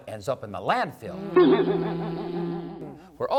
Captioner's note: buzzz!